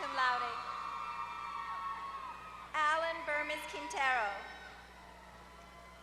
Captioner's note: applause